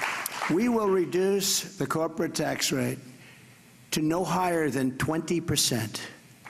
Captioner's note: applause